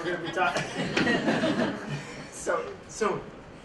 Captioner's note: laughter